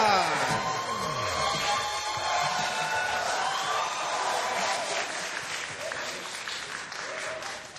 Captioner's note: cheering, applause